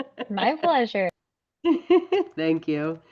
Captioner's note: laughs